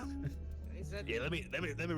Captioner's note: laughs